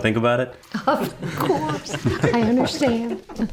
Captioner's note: everyone giggling